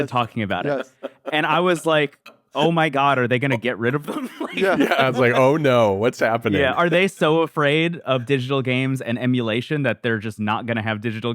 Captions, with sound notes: ... talking about it. (laughs) And I was like, "Oh my God, are they gonna get rid of them?" (laughs) Yeah. Yeah. (laughs) I was like, "Oh, no, what's happening?" Yeah. Are they so afraid of digital games and emulation that they're just not gonna have digital